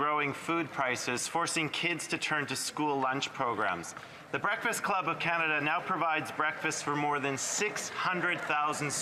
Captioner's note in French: voix de l'interprète